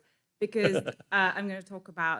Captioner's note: chuckling